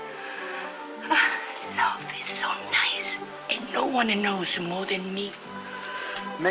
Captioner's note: sighing